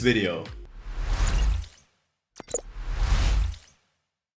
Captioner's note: logo whooshing